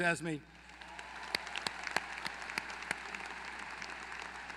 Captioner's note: applause